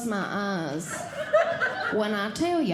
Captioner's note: audience Laughing